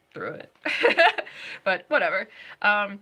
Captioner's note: laughing